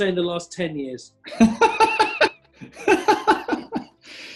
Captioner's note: laughing